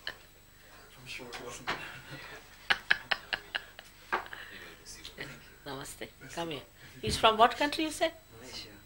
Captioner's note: shri mataji laughs